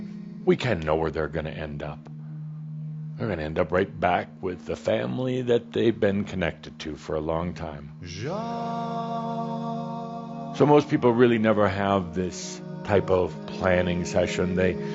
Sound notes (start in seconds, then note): none